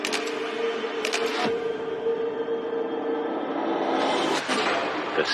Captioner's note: shutttterer clilick